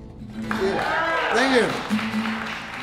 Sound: applause

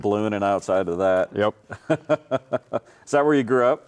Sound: laughing

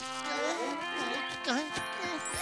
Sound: groaning

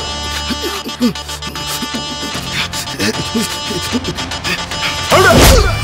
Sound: groans

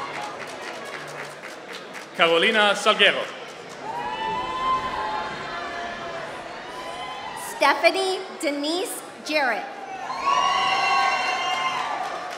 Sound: applause; applause

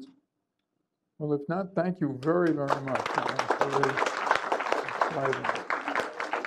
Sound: applause

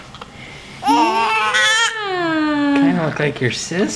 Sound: baby crying

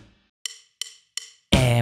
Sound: natural voice

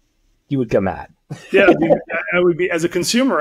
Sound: laughs

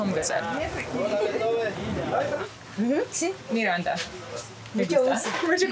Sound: speaking foreign language

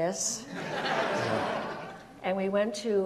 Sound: audience laughs

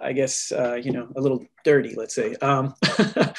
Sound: laughs

